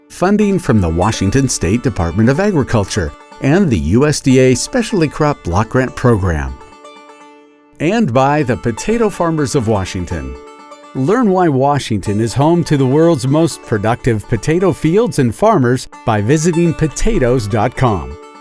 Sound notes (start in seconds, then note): none